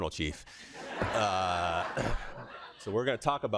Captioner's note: laughter